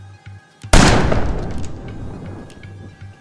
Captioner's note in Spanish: Disparo